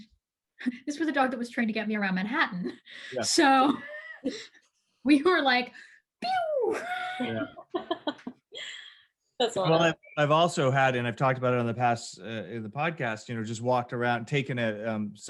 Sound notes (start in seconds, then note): 4.8 laughs